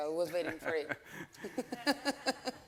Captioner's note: all laughing; laughs